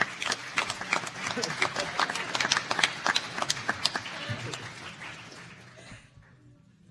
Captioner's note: applause